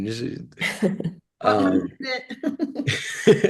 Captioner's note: laughter